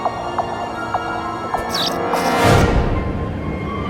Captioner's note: tense music; lights buzzing; foreboding music